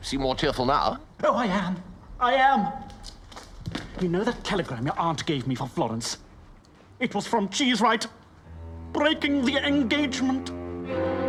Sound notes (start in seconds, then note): none